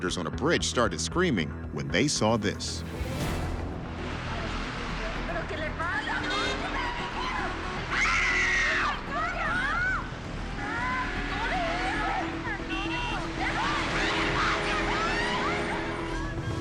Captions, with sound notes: started screaming when they saw this. [screaming]